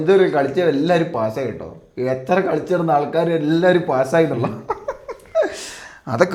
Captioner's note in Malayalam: പൊട്ടിച്ചിരി